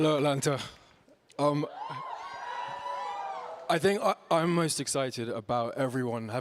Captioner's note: cheering